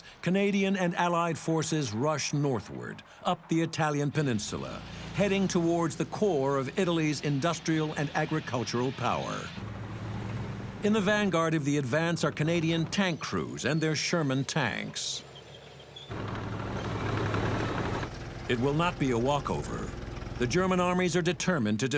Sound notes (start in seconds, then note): 16.1 tank roaring